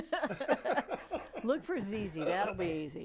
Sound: laughing

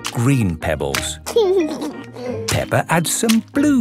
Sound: laughing

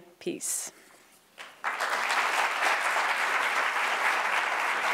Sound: audience applauds

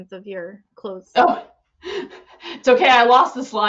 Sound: chuckles

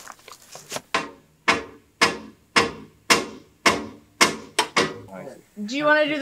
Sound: tapping rebar

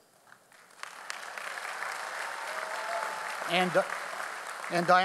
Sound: audience applauds

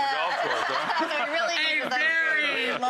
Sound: laughter

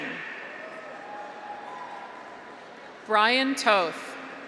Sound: graduates cheer

